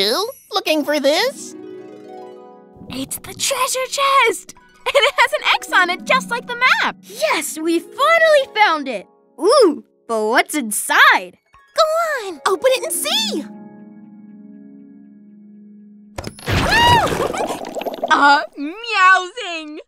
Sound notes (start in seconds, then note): 15.7 shrieks and giggles; 16.4 bubble effect